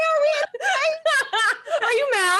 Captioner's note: laughs